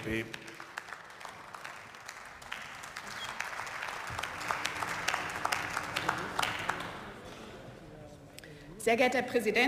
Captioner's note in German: Beifall